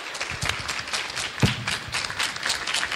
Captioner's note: clapping